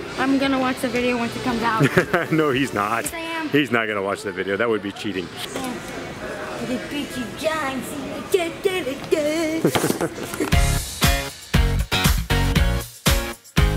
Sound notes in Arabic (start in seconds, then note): 9.1 يضحك; 10.4 الموسيقى متفائلا